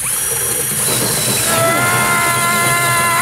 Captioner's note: tenon cutter whirring; yelling